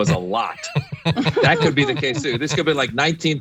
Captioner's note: laugh